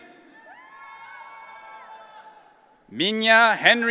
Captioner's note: audience cheering